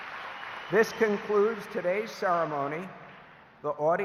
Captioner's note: applause